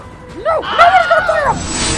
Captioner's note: whilhem scream